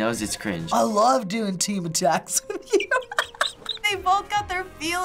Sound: laughing

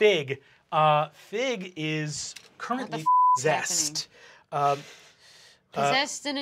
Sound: beep

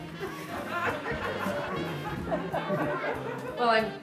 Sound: audience laughter

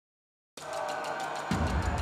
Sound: army shouting

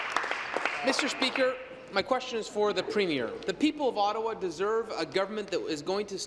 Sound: applause

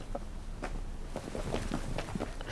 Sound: sound of marching boots

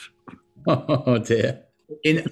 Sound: laughs

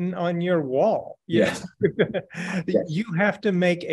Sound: laughing

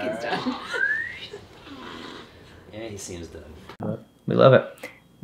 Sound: whistles

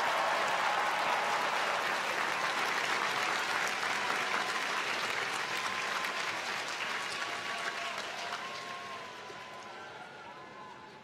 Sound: applause

